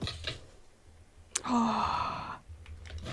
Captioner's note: sigh